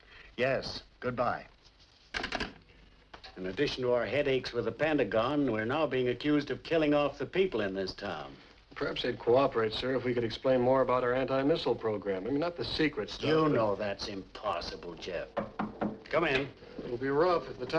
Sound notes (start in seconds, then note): 15.3 batendo na porta